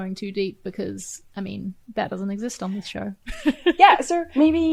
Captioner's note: laughs